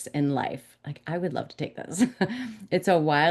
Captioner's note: woman chuckles